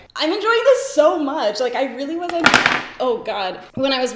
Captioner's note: object banging